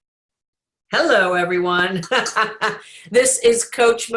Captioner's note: laughs